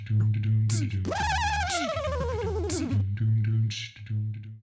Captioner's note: elephant trumpeting